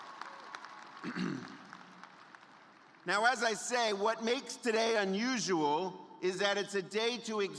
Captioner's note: cheers and applause